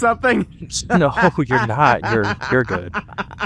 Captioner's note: still dying of laughter; bursts into laughter